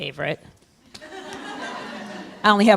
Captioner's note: laughing